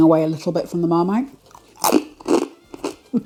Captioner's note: crunch